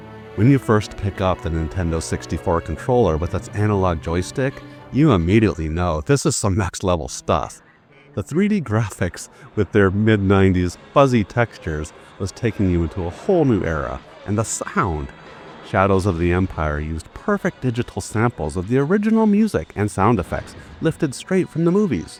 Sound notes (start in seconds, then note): 7.6 chuckling